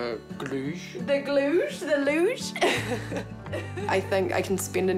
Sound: laughs

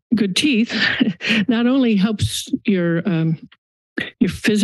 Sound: laughs

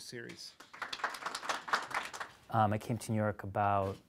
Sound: audience applauds

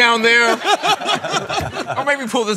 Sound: laughter

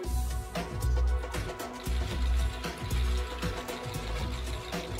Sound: energetic electronic music; cameras snapping

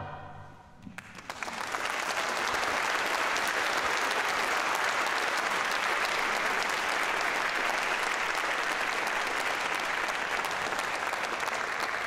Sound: applause

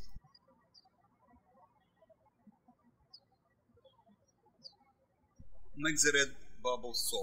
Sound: birds chirping

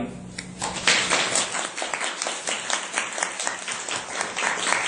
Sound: clapping

